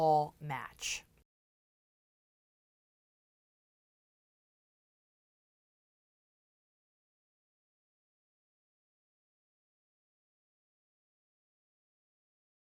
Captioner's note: no Sound Present